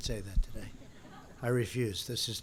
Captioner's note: laughter